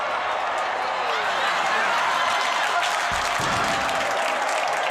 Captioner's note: audience laughs